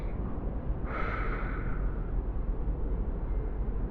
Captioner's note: long exhale